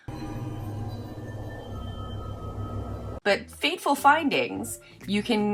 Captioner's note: creepy ambiance